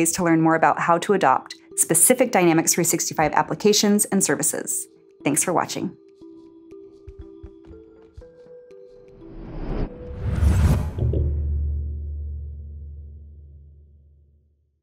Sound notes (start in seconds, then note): 7.1 gentle music; 9.2 whooshing